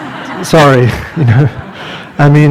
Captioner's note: laughter